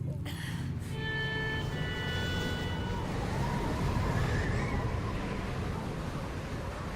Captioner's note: wind blowing hard. Sorrowful tones